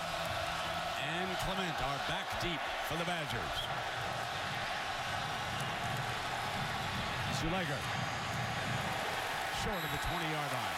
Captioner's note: cheers and applause